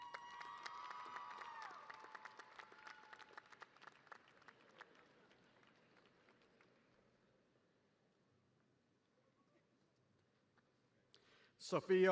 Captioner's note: cheers and applause